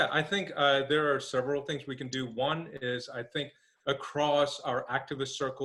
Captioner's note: laughing